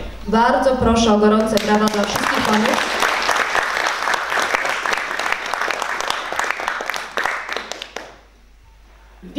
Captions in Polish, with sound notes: Bardzo proszę o gorące brawa dla wszystkich Panów. [oklaski]